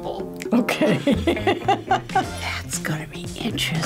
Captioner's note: laughs